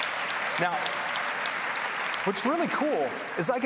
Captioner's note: applause